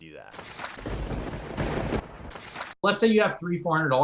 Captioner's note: thunder rumbling